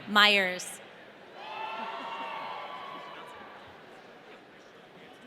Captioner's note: audience cheering